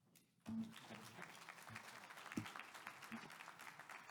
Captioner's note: applause